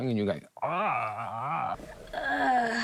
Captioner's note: groans